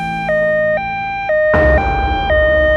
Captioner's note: ambulance